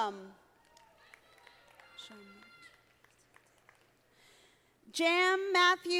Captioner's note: audience applauding